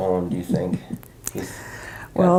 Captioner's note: chuckles